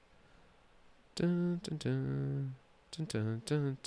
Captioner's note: humming